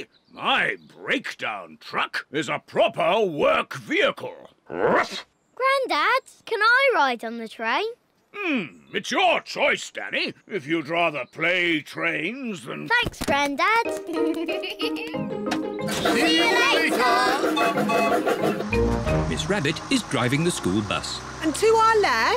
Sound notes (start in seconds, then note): 13.9 laughs; 17.4 toots whistle